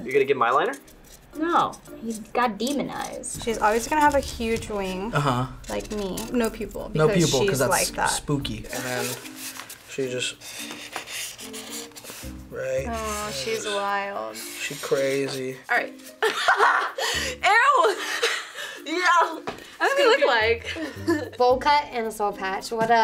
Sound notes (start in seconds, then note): 16.2 laughs